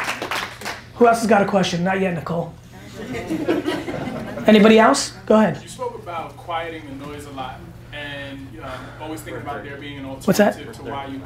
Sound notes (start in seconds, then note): 2.8 audience laughing